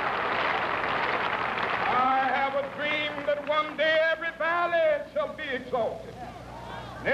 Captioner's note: cheering and applause